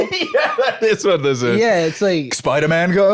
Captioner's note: laughing